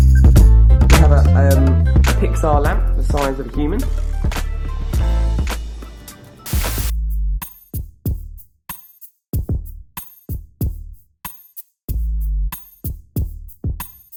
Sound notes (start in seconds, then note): 6.4 deep bass music; 6.6 static